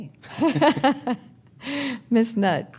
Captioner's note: chuckles